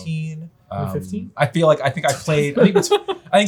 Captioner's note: laughs